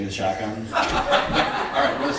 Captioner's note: laughing